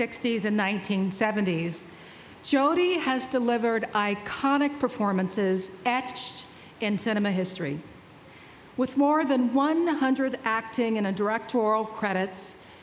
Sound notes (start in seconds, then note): none